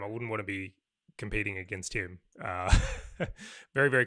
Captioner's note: laughs